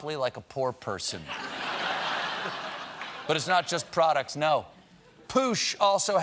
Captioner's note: laughter